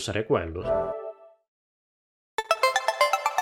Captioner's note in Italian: Suono dello spegnimento della PlayStation 4